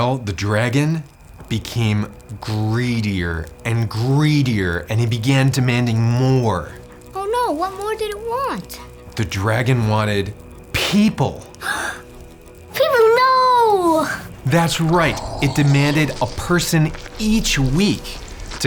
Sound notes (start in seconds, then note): 11.6 boy gasps